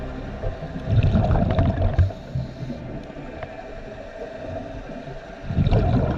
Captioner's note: underwater sounds continue